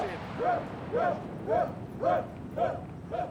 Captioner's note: shouting continues